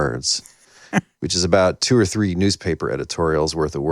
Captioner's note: chuckles